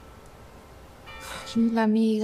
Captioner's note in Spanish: Campanadas